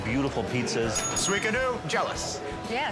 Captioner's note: bell dinging